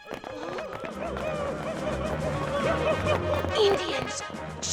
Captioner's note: indian war cries